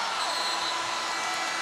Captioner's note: horn blows